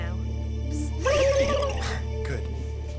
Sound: laughing; imitates rewinding

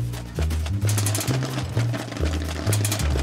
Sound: popcorn popping

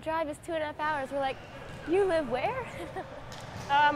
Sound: laughs

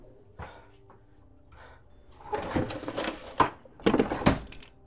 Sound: rummaging noises; drawer slides open

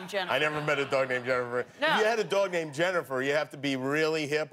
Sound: laughter

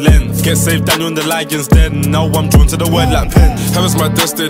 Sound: boom boom

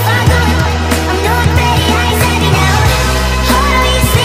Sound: woo

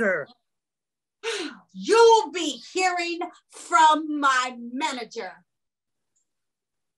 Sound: scoffs

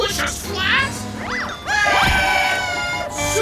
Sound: screaming

